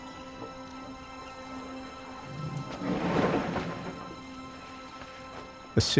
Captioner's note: rumbling